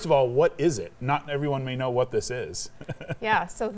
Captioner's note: chuckles